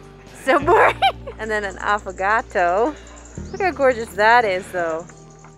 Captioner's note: laughing